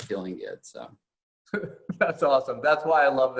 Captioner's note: laughing